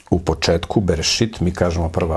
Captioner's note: in Hebrew